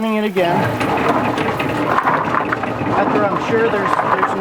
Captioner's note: root washer starts turning